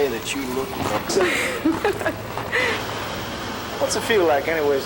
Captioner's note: laughing